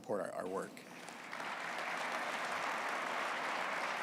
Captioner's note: applause